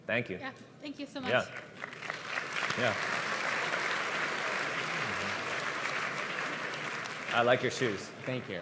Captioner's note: applause